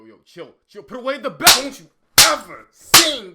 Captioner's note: slapping noises